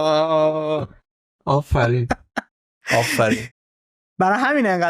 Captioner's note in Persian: خنده